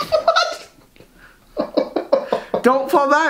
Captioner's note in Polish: śmiechy